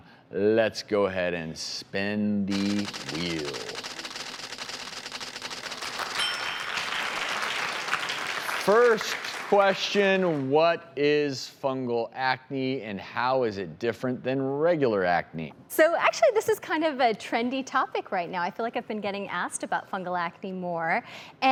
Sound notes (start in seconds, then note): 5.8 audience clapping